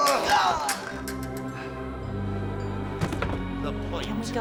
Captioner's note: Jess groaning